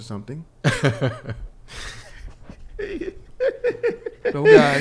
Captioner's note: laughs